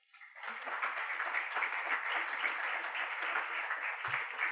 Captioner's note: crowd applauding